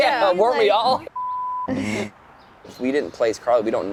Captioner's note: beeping